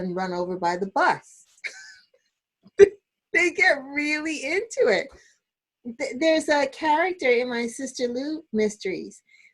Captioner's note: laughter